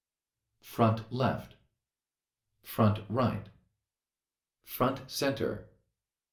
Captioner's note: computer Voice